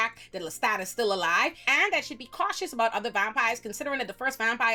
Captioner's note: none